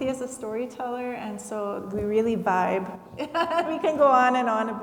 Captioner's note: laughs